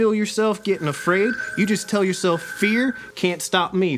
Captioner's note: digital chiming